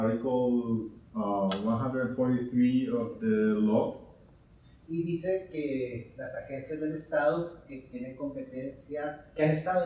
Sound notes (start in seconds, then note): 5.0 speaking in Spanish